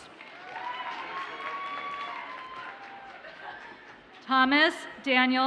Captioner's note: audience cheers and applauds